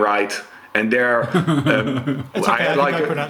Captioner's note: chuckles